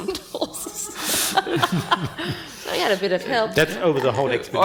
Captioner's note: panel and audience laughing